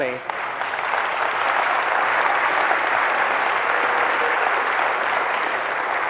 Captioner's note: applause